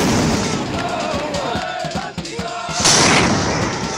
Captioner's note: sound of explosions; celebratory cheering and singing; sound of explosions